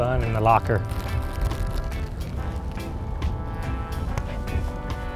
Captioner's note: wrapper crinkling